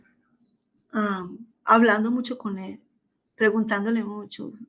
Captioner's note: speaking spanish